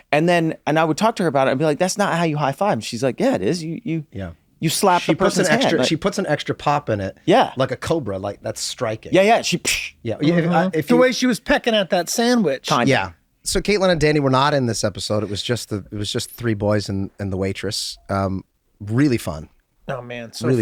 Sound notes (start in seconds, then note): 9.5 makes slap sound